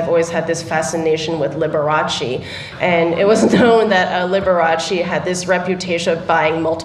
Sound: laughter

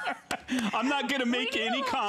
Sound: laughter

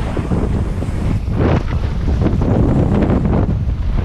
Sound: oncoming Wind

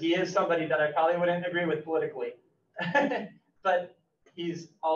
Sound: laughs

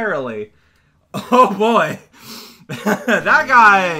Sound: laughs

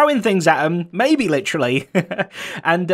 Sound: chuckles

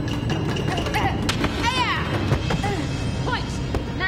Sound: Taylor shouting

